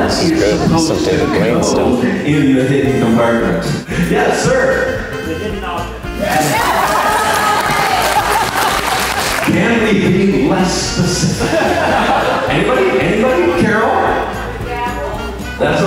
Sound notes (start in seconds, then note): 6.5 applause